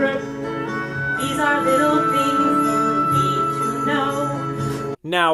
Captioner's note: sleigh bells in background